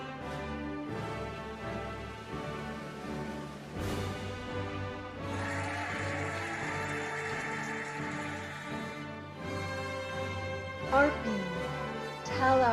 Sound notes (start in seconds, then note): 5.2 cheering and applauding